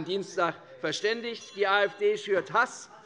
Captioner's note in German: Zurufe von der SPD und der LINKEN - Glockenzeichen des Präsidenten